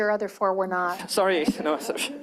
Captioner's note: chuckling